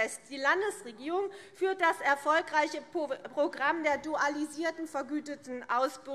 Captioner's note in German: none